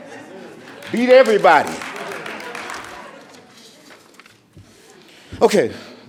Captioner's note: audience applauding